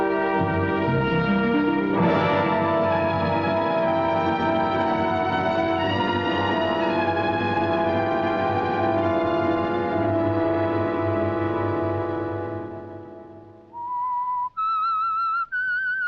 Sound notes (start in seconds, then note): 13.5 whistling